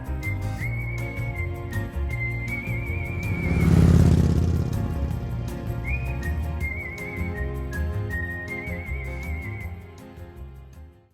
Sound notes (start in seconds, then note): 0.1 lively music; 4.0 motorbike roaring